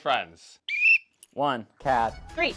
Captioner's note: whistle